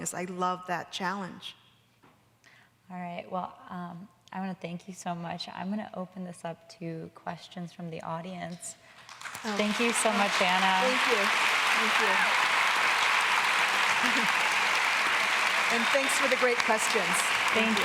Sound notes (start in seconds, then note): 10.4 audience applauding